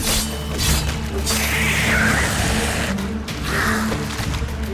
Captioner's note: shriek